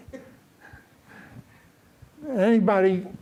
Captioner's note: laughter